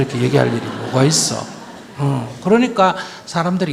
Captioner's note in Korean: 청중 웃음